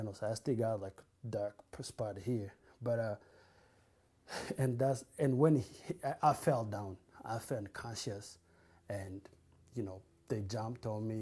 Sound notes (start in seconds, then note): 4.3 sighs